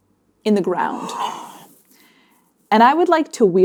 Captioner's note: gasping